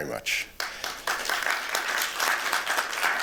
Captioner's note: applause